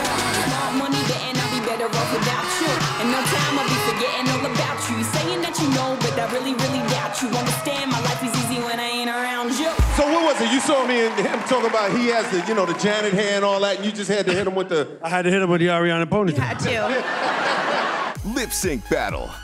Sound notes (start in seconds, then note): 16.3 laughter